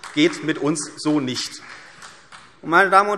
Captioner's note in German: Beifall CDU und vereinzelt BÜNDNIS 90/DIE GRÜNEN